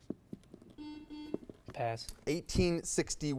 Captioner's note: buzzer buzzes